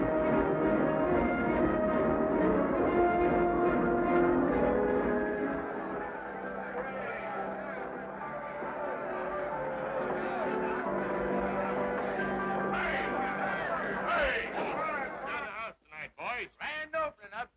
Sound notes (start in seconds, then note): 1.5 exciting music; 6.9 men chattering; 6.9 men laughing